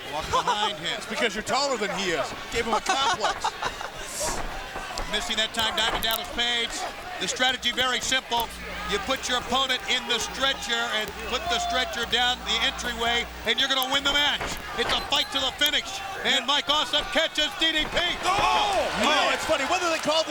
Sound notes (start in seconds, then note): 3.2 Kimberly laughs